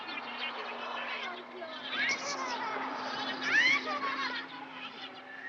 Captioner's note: children laughing